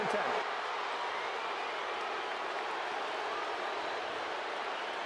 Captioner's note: cheers, applause